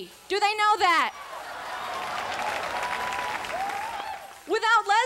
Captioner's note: crowd cheers